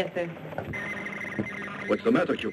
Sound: radio whirring

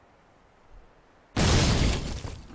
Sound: boom

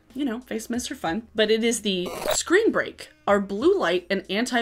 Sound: static squeals

